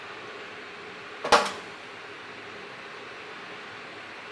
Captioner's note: ladder clicks